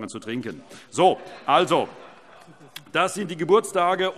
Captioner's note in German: Vereinzelte Heiterkeit